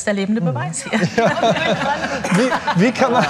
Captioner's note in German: Lachen